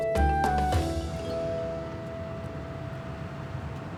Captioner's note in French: ronronnement du moteur